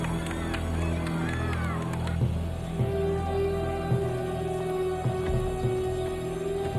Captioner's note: group applauding; dramatic music continues